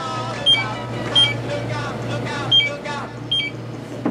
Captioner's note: more Beeping